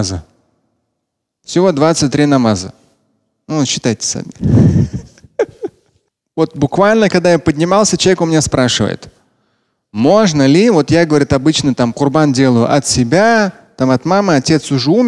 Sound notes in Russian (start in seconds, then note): 4.6 Смеется